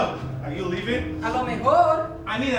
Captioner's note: speaking in a foreign language